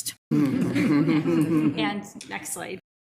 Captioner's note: all laughing